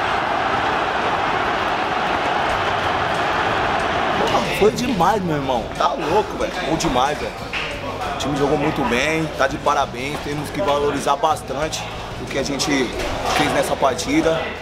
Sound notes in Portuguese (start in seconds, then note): 0.0 gritos de gol; 0.7 torcida celebrando